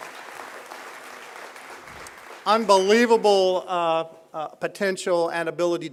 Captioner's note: applause